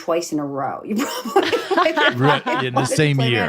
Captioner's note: laughs; laughing